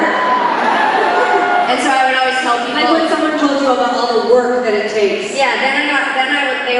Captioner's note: laughing